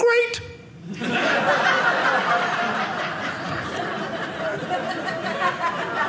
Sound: audience laughing

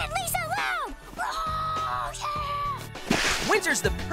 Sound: screaming

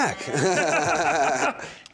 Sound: laughing

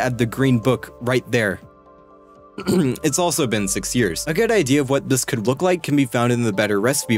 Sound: clears throat

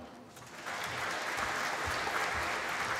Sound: applause

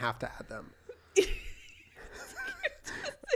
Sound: laughter

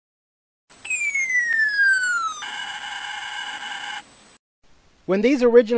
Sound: sound effects

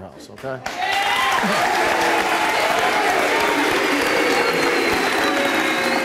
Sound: audience applauding

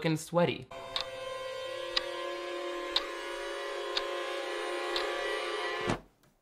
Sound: ominous music; clock ticking

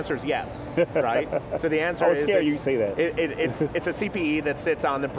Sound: laughs

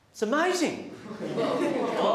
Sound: students laugh

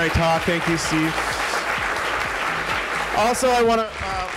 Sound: applause

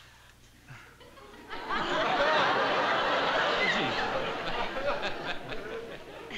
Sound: laughter

